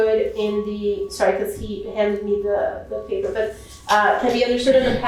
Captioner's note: speaking portuguese